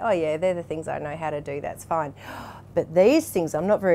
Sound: gasps

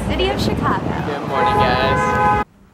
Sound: car horns blaring

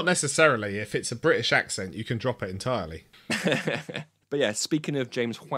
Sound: laughs

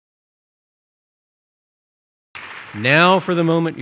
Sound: applause

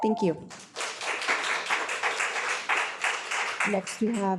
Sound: audience applauds

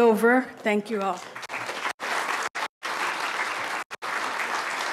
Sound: audience applauds

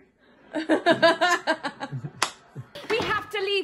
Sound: laughs

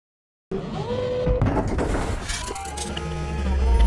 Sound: machine whirring

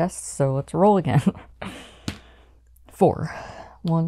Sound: dice hitting the board

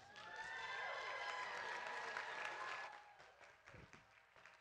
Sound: audience claps and cheers

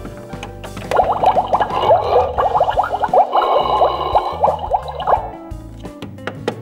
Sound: pooping sounds can be heard coming from the bathroom

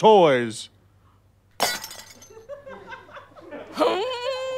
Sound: dish shatters

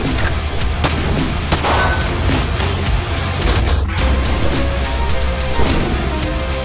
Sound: metal clanging; gunfire popping

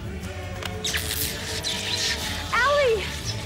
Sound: electricity zapping

